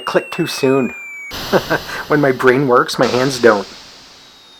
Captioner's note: laughing; chuckles